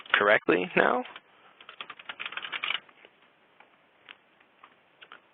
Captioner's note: typing